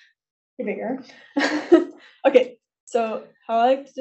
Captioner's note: laughs